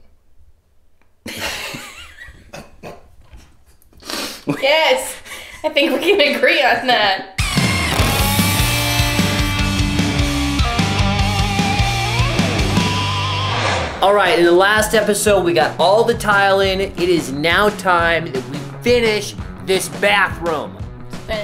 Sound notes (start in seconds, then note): 1.3 laughing; 7.5 high energy rock music